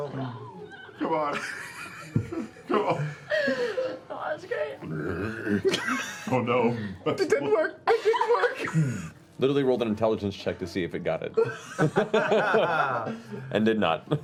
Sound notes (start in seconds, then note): 4.8 confused grunt